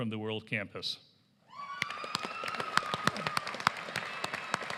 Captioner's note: applause